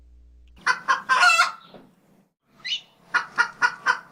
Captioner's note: rooster Crows